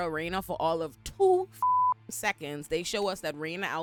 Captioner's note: beep